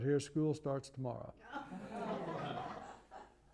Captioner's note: laughter